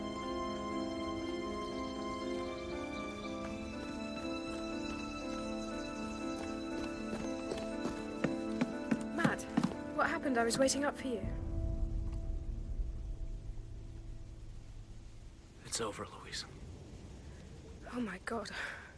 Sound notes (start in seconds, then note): 0.2 birds continue singing; 4.2 footsteps slap against the dirt; 12.0 water rushing